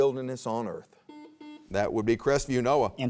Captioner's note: buzzer beeps